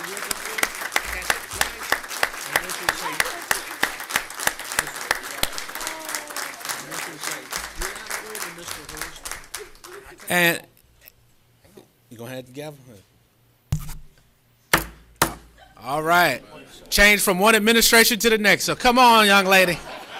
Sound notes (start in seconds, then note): 2.9 applause